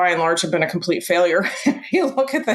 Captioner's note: laughs